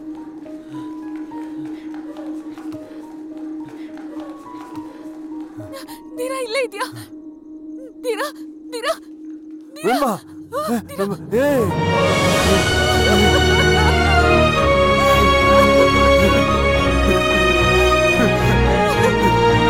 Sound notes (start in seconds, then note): 2.9 sighs; 11.5 cries; 18.4 cries